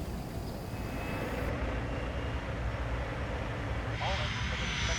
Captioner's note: airplane engine whirring